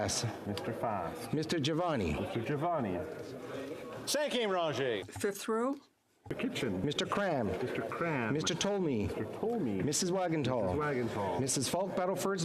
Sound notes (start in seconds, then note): 0.6 calling of recorded vote